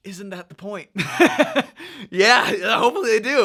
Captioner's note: laughing